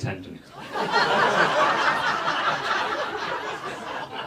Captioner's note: audience laughs